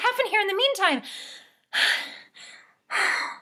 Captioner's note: sighing